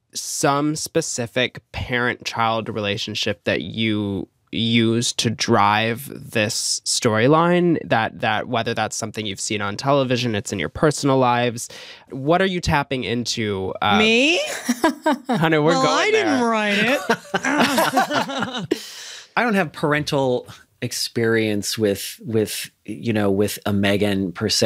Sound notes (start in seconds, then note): 14.4 laughter; 16.7 laughter continues